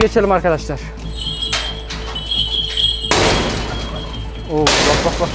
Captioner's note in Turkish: Çan ve kapı çarpması sesi